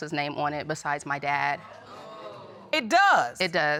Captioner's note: audience gasps